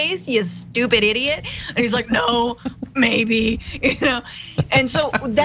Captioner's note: laugh